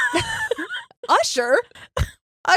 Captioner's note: laughing